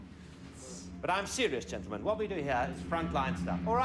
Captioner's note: airplane engine roars